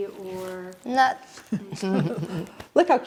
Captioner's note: laughing